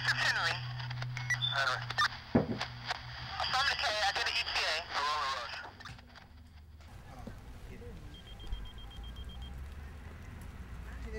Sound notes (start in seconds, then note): 3.7 woman On Radio; 4.4 murmurs; 6.9 chattering; 8.0 beeping